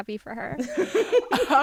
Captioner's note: laughter